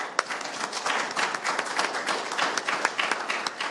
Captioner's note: audience applauds